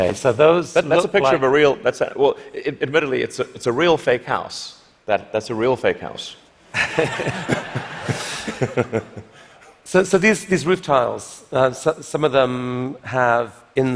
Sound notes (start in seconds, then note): 6.7 laughter